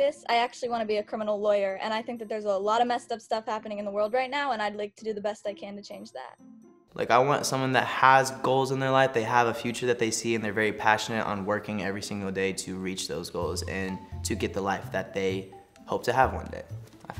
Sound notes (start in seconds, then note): none